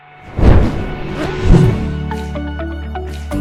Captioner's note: fire whooshing; bright music